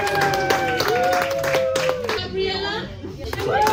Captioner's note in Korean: 박수